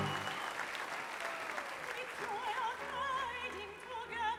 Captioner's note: applause